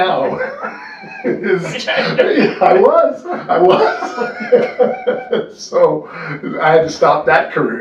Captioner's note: laughter